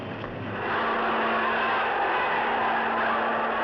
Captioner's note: all Shouting